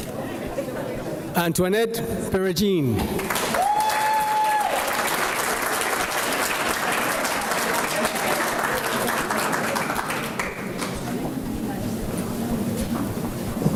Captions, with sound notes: - Antoinette Peragine. (applause)